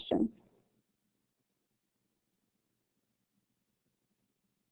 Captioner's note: silence